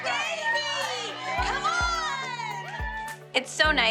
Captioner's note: all cheering